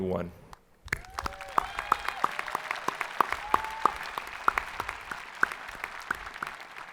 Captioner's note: hands clapping; people cheering